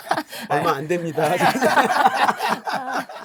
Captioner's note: haha